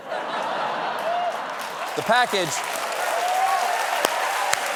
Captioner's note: cheers and applause